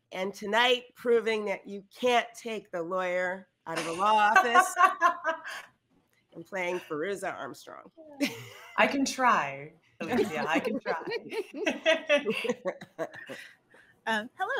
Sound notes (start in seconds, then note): 3.8 laughs; 11.9 all laughing